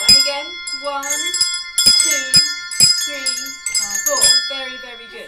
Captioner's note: bell sounds